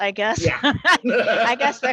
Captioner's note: laughter